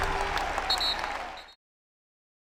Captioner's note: referee whistle blowing